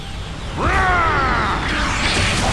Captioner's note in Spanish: Gritos